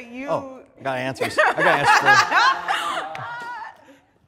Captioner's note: all laughing